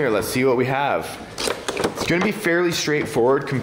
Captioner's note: plastic scrapes